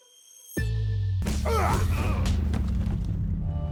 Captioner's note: fighting grunts